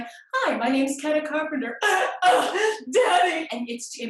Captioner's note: sobbing